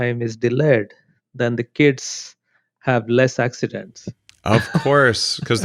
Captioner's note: laughs